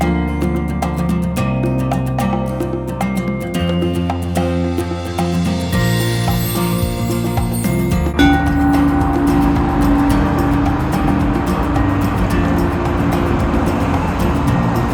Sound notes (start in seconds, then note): 8.4 gong Sound; 10.4 acoustic Guitar Music